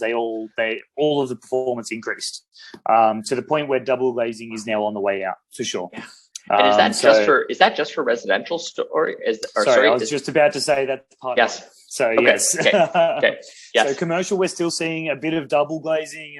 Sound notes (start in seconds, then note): 10.6 laughs